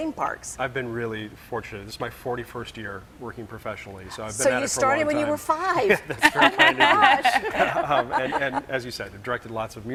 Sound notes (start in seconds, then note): 5.8 laughing